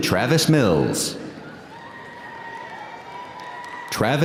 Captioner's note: audience cheering; audience applauding